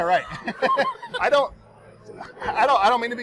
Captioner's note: laughing